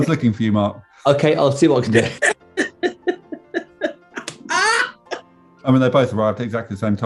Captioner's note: laughing